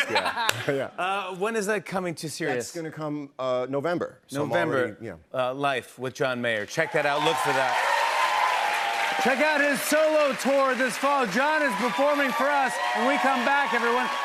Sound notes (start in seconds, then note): 8.0 cheers and applause